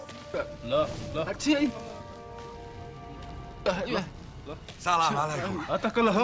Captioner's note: pseudo-Arabic gibberish